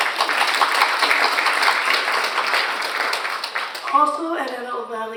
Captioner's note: audience applauds